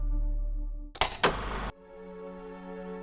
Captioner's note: clapper claps; projector purrs; gentle strings music